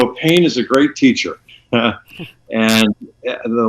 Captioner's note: chuckles